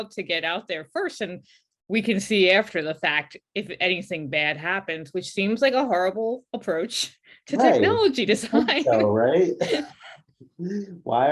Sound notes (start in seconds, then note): 7.6 laughs